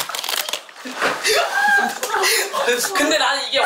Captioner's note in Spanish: Todos están llorando